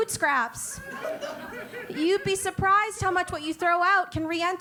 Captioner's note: laugh